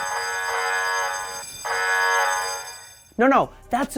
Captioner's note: klaxon